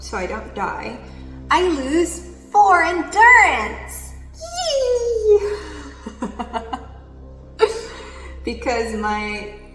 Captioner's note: laughs